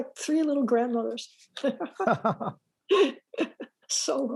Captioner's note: laughs